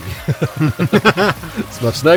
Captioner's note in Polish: śmiech